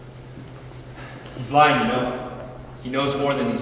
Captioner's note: sighs